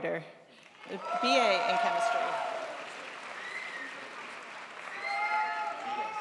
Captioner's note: crowd applauds